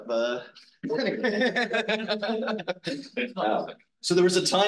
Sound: instructor laughs

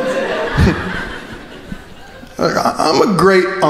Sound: crowd laughing

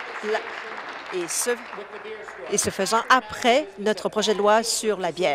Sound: applause

